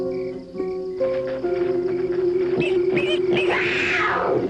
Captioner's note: leopard growls; pig snorting